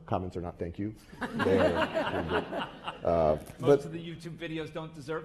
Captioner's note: laugh